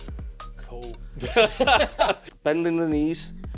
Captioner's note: laughing